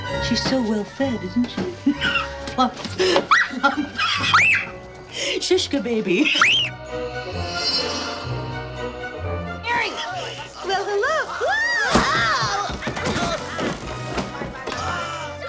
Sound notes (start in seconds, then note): 4.1 screams; 5.8 screams; 11.4 screams; 11.7 grunting